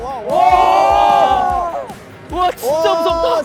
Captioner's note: nothing but exclamations